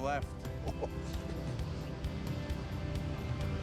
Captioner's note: chuckles; engine rumbling; upbeat music